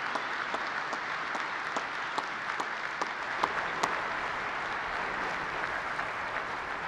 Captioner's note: applause